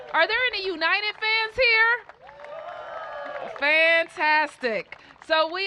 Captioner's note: cheers and applause